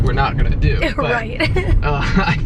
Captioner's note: chuckles